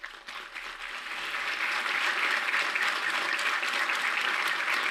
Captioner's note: audience applauding